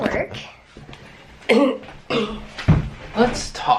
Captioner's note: coughing